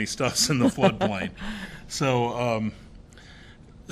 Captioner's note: laughter